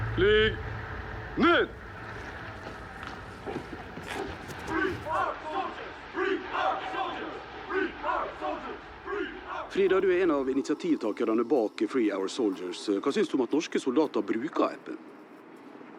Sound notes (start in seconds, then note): 5.0 chanting